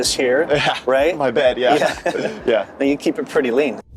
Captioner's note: chuckling